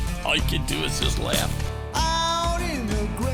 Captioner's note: voiceover